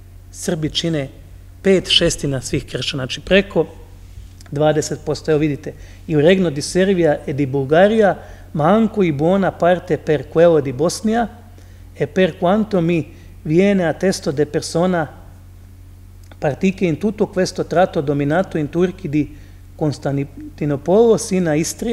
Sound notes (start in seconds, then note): 4.0 speaks in Latin